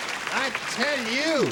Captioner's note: applause